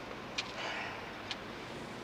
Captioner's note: sighs